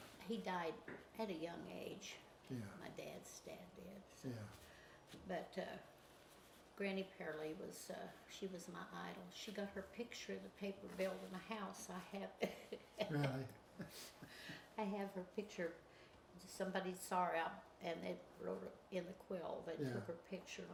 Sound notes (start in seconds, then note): 12.4 chuckles